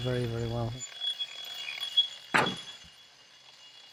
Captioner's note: grinding